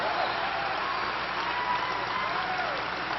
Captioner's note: applause